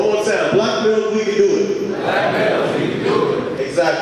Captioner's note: audience speaking